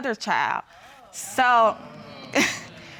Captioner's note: audience exclaiming; chuckles